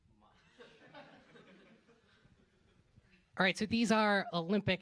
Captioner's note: laughter